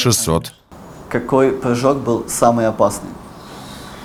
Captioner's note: asks in Russian